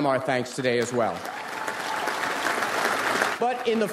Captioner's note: audience applauds